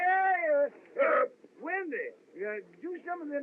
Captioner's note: belches |